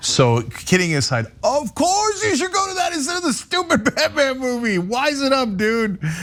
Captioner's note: laugh